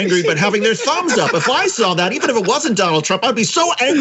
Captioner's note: laugh